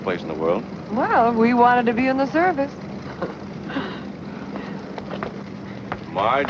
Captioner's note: chuckles